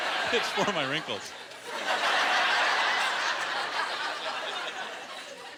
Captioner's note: laughter